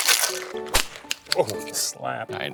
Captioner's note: cocktail shaker shaking; hand slaps on cocktail shaker